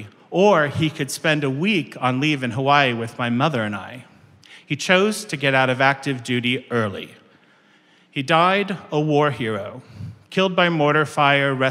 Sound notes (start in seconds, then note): none